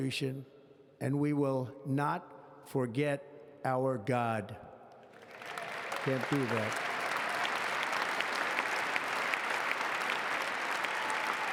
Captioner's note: applause